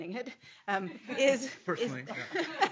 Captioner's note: laughing